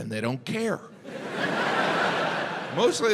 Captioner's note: crowd laughs